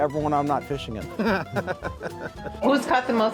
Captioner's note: laughs